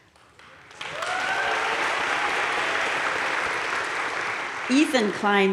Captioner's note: crowd cheering and applauding